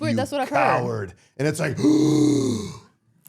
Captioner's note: gasping